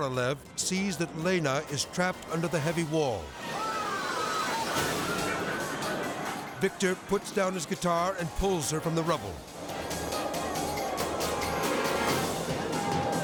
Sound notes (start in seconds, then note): 3.4 people clamoring; 9.4 tense music